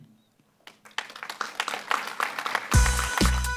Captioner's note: applause